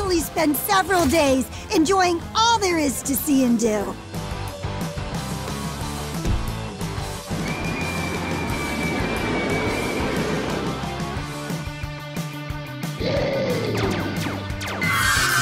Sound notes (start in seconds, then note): 4.8 jaunty music; 7.4 kids scream; 13.0 monster growls; 13.9 lasers shoot